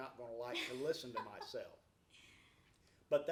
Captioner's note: laughs